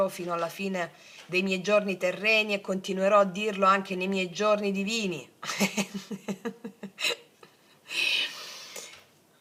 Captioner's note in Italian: risate